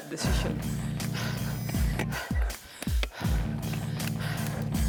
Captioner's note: panting